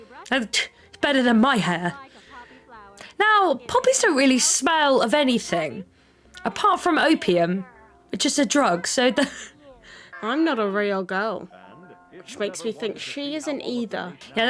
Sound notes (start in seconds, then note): 8.2 laughs